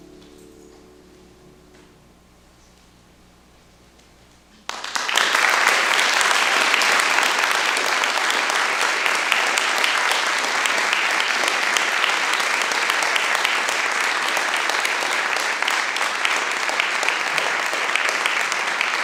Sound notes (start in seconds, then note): 4.5 applause